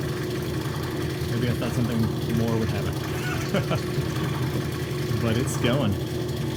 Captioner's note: laughs